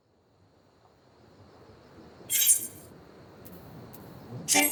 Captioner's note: sword clanking